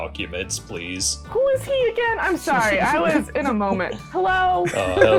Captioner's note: laughter